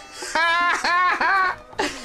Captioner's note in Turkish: Gülme sesi